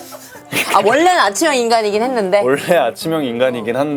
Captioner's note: hahaha